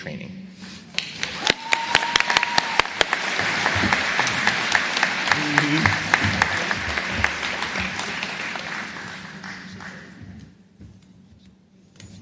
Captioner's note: applause